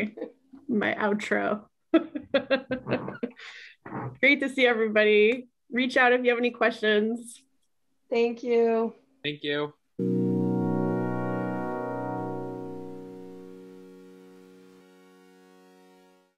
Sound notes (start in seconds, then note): 1.9 laughs; 10.0 upbeat music